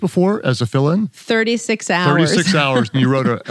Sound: chuckles

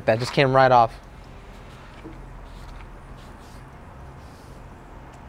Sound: air whirring

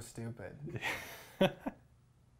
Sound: laughs

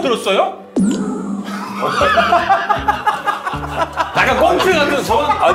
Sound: hahaha

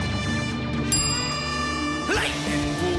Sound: triumphant music; wink dings

